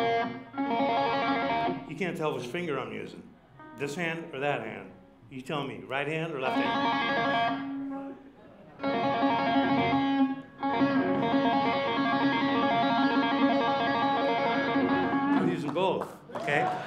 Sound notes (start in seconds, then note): 5.4 tapping notes; 16.2 cheers and applause